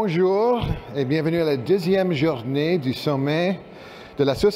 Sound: speaking french

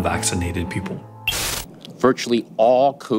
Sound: static buzzing

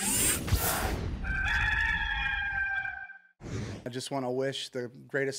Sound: rooster crowing

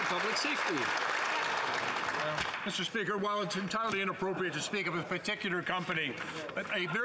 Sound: some Applause

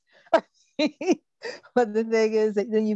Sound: laughs

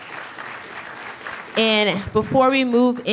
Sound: applause

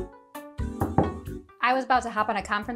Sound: upbeat music; door knocking

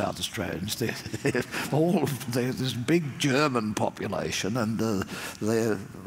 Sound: laugh

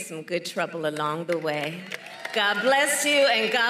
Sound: applause

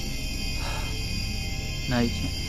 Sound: exhales

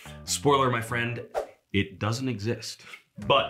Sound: graphic whooshing

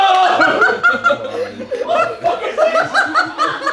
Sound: all laugh

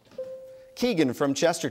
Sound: bell dings

